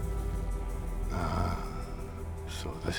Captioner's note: scottish accent